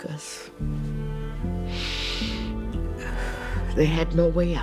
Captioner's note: breathes deeply